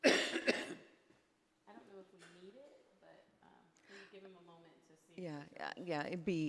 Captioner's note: people murmuring quietly